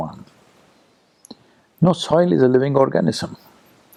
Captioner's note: none